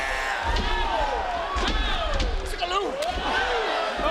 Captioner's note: mat thuds